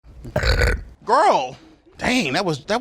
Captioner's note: belching